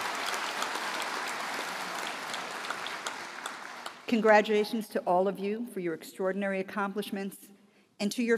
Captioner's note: applause